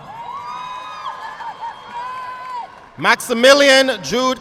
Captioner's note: audience clapping